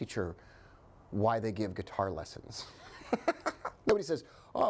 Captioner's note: chuckling